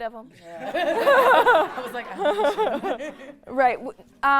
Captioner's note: all laughing